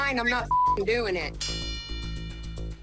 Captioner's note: bell dings